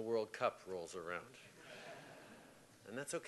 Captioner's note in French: Rires